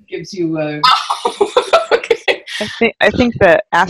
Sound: laughs

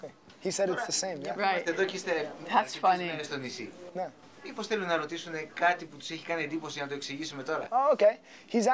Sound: speaking Greek

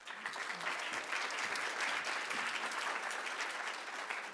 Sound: audience applauding

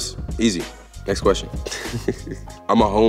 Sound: chuckles

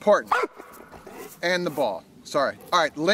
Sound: dog barks

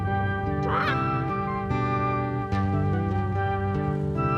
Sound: רופרט צועק

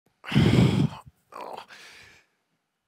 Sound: groans

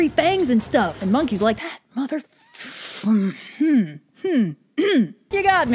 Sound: clears throat

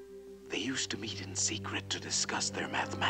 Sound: whispering

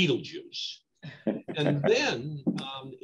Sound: laughs

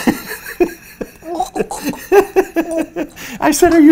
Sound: laughs; gags

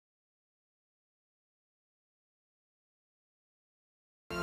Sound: silence

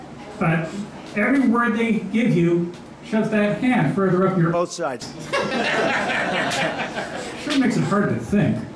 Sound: laughter

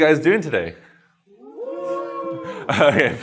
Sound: cheers

